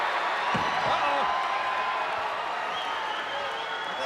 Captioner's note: crowd cheers